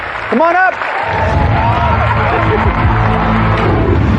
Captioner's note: cheering and applause